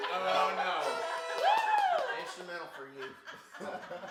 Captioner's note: group laughs